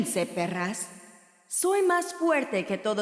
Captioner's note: in character, in Spanish